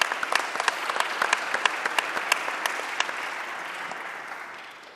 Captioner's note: audience applauding